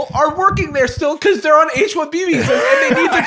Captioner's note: laughter